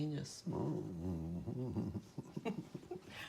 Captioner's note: laughing derisively